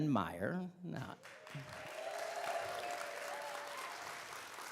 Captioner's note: audience clapping